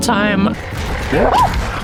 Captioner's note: running; scream